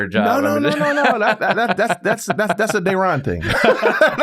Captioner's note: laugh